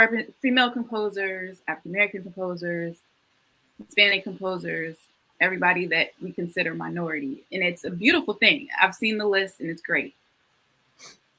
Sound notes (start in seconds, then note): none